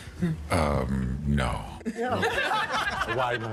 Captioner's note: audience laughing